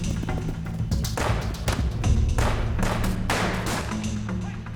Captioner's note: gunfire